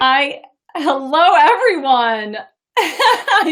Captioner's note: laughs